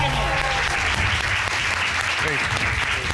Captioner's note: cheers and applause